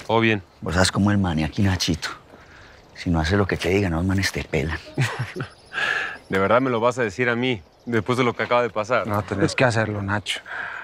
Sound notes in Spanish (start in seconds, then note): 4.7 Risas